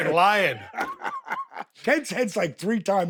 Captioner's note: Dallas laughs